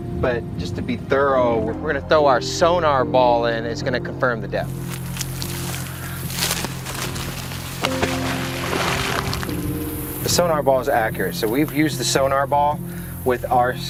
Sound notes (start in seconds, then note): 5.3 insects chittering; 6.7 sonar ball splashes; 8.0 gentle music